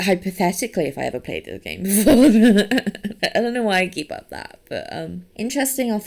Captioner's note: laughs